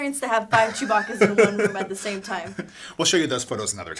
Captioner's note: laughing